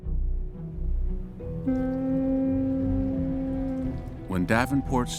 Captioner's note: ship horn blaring